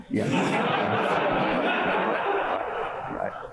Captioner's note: laughter